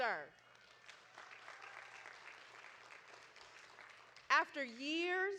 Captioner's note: audience applauding